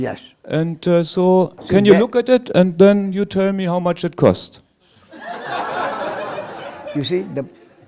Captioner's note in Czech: smích